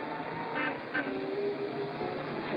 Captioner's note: car honks; faint music plays